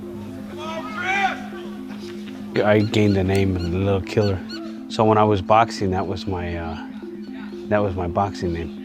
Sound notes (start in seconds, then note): 0.6 man shouting